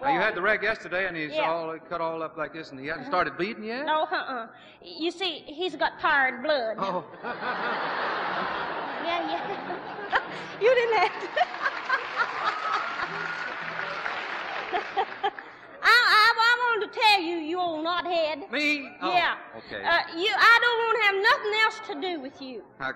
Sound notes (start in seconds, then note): 7.4 laughs; 10.1 laughs; 12.1 laughs; 13.2 applause